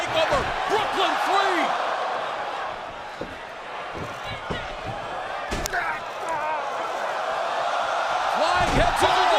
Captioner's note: crowd cheering